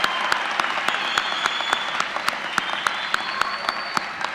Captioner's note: applause